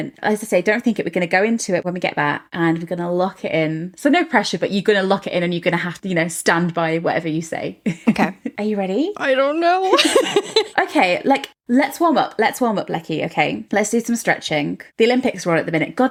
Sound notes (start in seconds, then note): 9.2 laughing